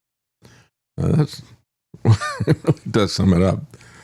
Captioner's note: laughs